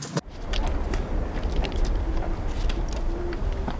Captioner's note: light cracking, wind blowing